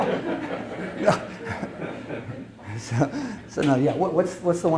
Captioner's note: audience laughs